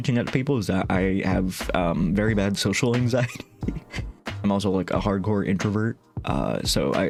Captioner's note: laughing